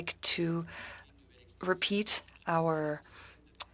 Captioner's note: speaking French